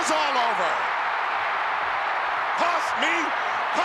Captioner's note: crowd cheering